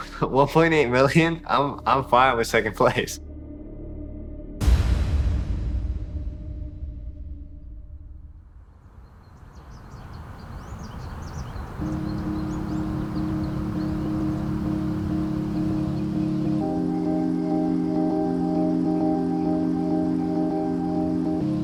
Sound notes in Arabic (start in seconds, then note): 0.0 ضحك; 8.9 زقزقة طيور